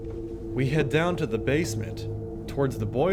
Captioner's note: voiceover